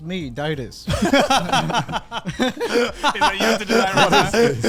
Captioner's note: men laugh